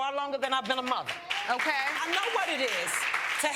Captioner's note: audience applauding